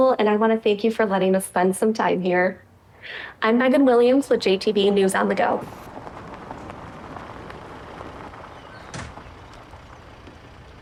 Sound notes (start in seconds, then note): 8.6 door closes